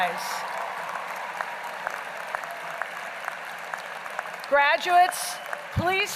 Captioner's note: applause